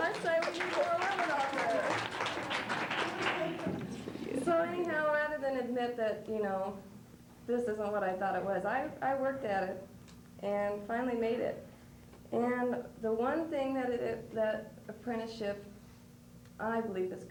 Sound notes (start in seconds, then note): 2.1 applause